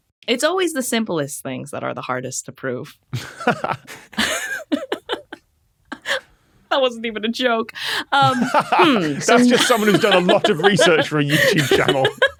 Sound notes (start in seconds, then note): 3.1 both laughing; 8.0 laughs heartily